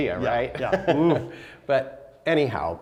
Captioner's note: laughing